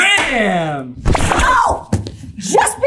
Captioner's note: shriek